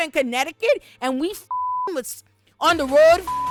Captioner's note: beep